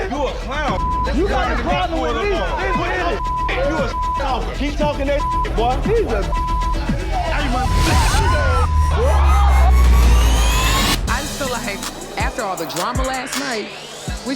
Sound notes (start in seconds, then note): 0.7 beep; 2.4 dramatic music; 4.7 beep; 8.2 dramatic music; 8.2 people yelling at once